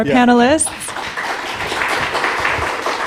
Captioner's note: applause